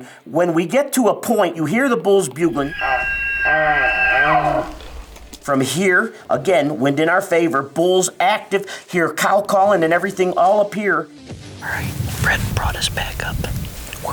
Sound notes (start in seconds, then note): 2.5 bulls bugling